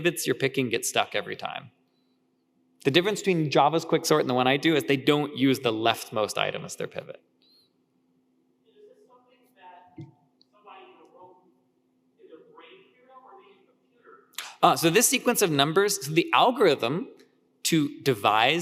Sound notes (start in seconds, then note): 8.9 speaker speaking faintly